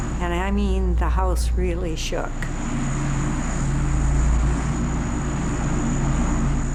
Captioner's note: fan blowing loudly